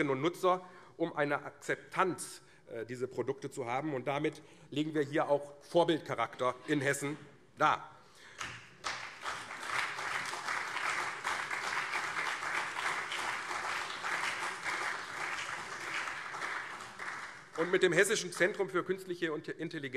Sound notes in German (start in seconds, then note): 8.3 Beifall CDU und SPD